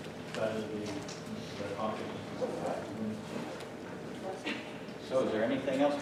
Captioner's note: low talking